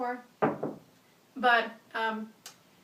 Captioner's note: knocks wall